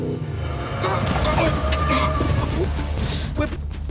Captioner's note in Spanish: Chirrido de llantas